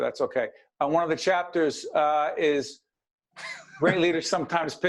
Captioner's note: laughing